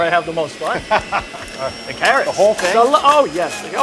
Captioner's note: laughs